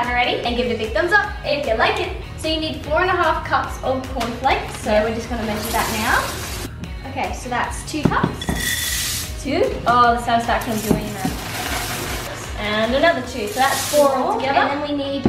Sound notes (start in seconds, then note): 8.6 pouring